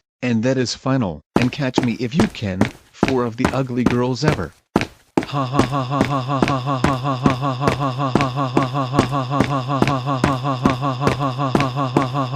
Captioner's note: laughing